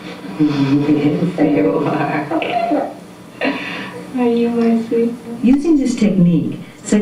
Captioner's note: baby giggling